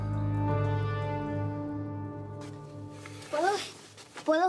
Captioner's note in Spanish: Quejidos